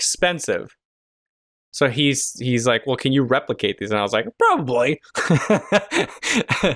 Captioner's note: laughter